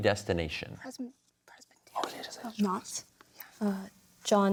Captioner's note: whispers